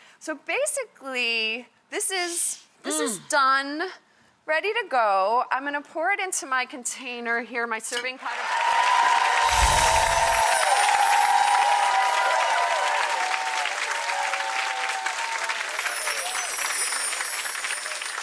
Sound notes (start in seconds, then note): 8.8 audience cheers